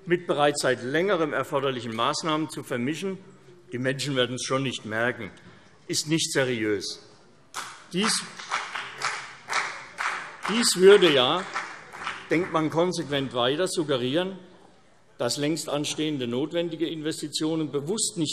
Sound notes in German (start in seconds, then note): 7.5 Beifall CDU und vereinzelt BÜNDNIS 90/DIE GRÜNEN